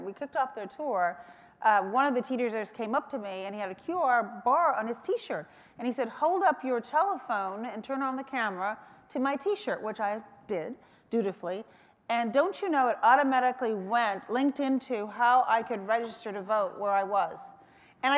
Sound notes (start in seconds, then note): none